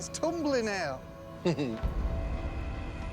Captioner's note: chuckles